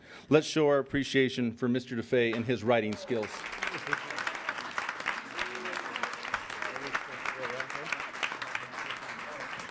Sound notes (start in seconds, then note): 2.6 applauding